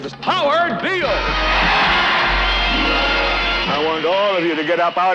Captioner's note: audience chanting